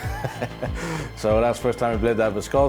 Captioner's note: laughing